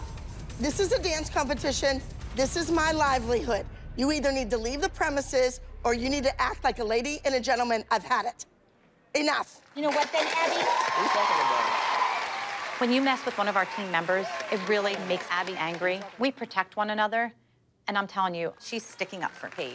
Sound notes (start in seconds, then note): 8.6 applause